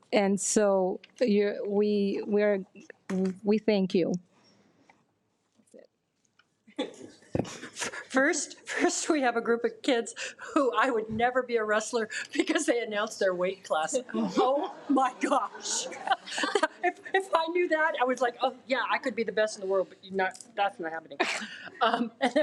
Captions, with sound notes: And so we thank you. - That's it. - First we have a group of kids who, I would never be a wrestler, because they announced their weight class. Oh my gosh. (attendees laugh) If I knew that, I was like, oh yeah, I could be the best in the world, but that's not happening.